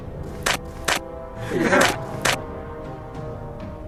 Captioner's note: disgruntle alien sound